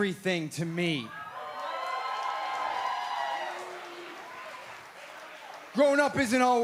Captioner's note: crowd cheering